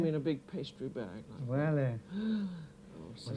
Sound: gasps; both conversing in French

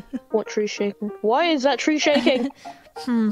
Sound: laughs

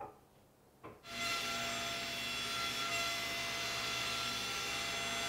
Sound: table saw whirring

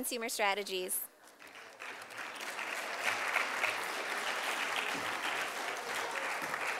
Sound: sound of applause from audience

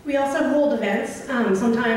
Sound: voiceover

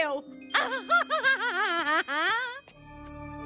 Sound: laughing

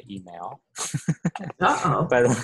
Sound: laughter

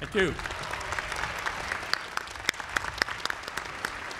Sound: applause

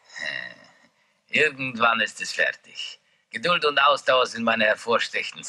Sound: German spoken audio

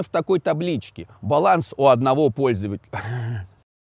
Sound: laughing

